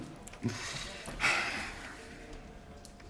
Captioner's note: sighing